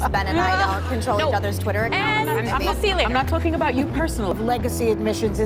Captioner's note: laughing